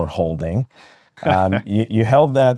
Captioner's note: laughing